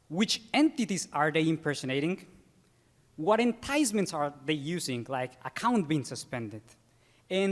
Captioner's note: none